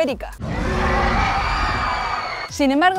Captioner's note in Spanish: Gritos